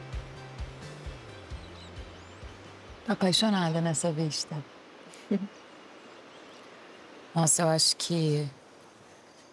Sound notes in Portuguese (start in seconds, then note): 5.2 risos